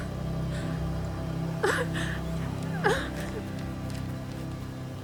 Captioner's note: sobbing